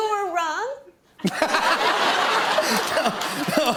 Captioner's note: laughter